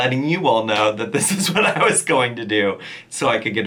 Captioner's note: chuckling